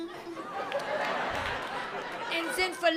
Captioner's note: laughter